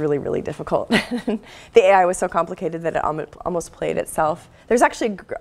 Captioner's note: laugh